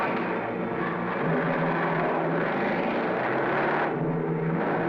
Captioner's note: car engine roaring